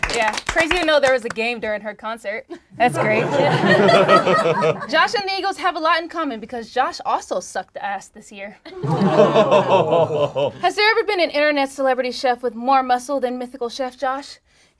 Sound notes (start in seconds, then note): 0.0 group cheering; 2.7 group laughs; 8.9 group groans